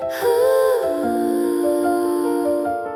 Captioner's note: humming